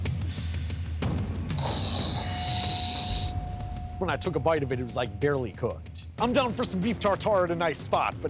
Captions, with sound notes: (retching) - When I took a bite of it, it was like barely cooked. I'm down for some beef tartare at a nice spot,